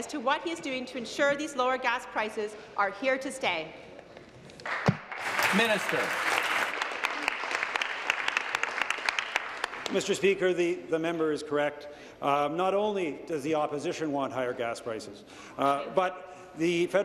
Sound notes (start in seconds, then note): 7.2 applause